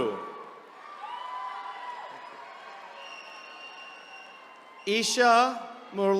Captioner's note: attendees cheering